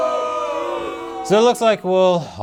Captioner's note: audience groans